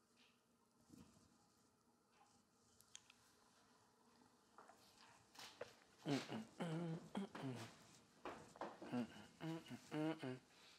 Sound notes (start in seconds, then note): 6.0 softly beat boxing